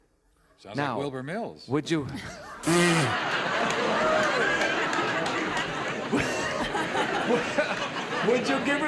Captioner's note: laughter